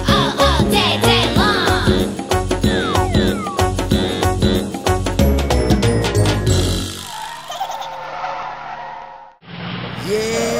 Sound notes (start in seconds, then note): 6.4 tires skidding; 7.0 truck giggling